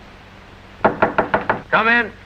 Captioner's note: knocks on door